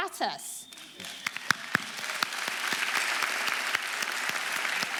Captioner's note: audience applauding